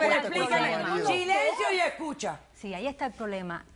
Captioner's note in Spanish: Hablan al unísono